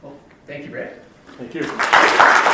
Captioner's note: audience applauding